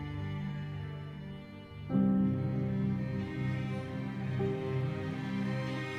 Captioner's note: none